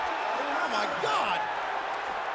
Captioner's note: crowd chatter